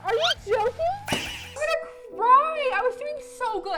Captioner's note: balloon pops